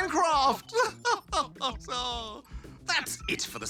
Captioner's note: chuckles